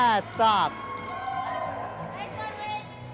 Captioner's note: cheering